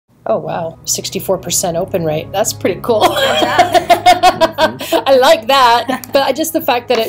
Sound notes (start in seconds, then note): 3.0 laughter